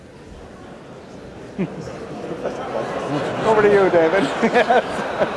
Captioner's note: audience grumbling; laughter